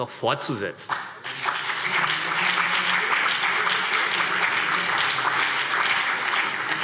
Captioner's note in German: Beifall CDU und BÜNDNIS 90/DIE GRÜNEN